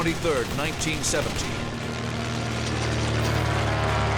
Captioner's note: weapons firing